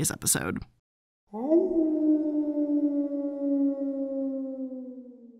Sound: wolf howling

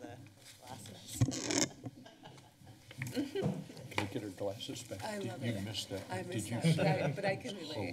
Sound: laughter

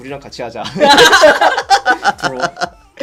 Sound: laugh

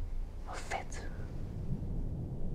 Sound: whispering

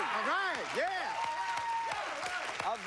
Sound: cheers and applause

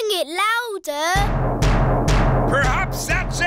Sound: banging

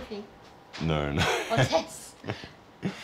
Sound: laughs

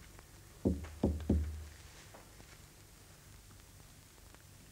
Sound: knocking on door

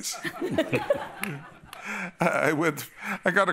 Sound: laughter

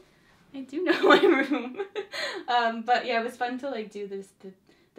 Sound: laughs

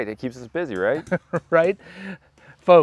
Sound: laughs

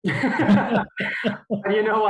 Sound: both laughing

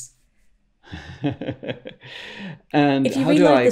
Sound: laughs

